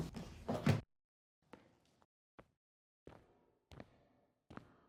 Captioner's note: footsteps